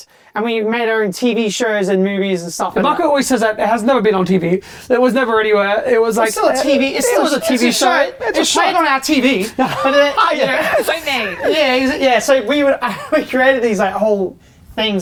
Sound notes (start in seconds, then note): 9.4 laughs